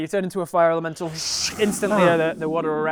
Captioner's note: whoosh